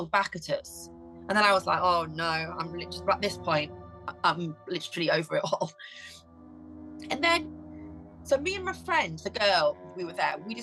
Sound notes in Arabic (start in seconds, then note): 6.8 يضحك